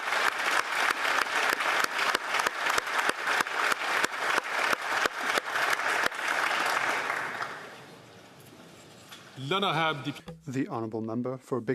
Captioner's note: applause